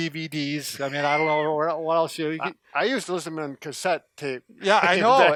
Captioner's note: laughs